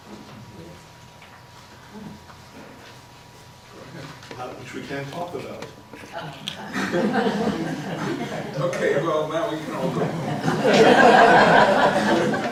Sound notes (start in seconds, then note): 6.0 laughing in the crowd; 11.5 laughs